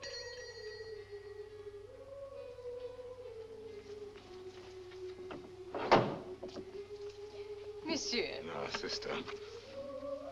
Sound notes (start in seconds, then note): 0.0 gate bell rings; 5.7 gate opens